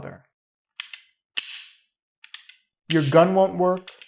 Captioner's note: gun pin clicks